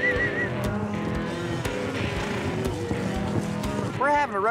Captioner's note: whistling; cattle moo